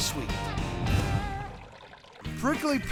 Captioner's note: pouring